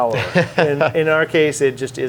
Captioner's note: laughs